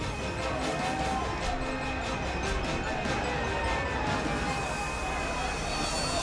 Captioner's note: upbeat dramatic music continues; group chattering frantically